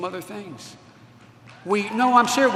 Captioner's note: applause